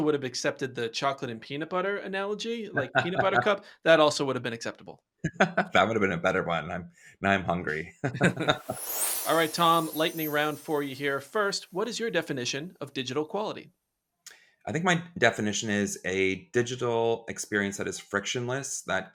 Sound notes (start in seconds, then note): 8.0 laughter